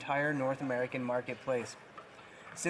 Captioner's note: none